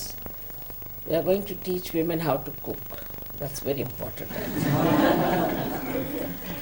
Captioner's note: laughter